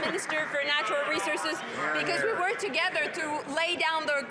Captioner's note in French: voix de l'interprète